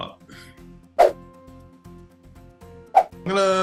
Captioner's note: fast whooshing sound